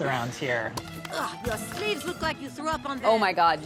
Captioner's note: scoffs